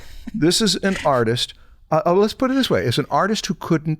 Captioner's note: chuckles